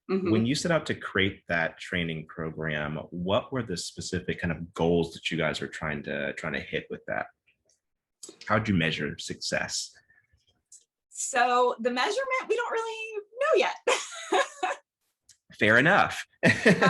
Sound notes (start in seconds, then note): 14.0 laughs